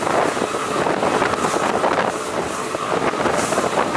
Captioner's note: wind blowing